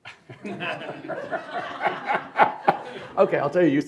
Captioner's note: laughter